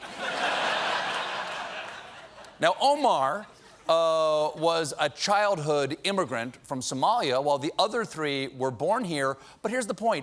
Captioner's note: laughter